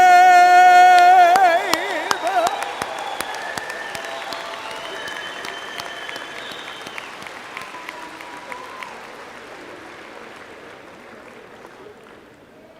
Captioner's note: applause/cheers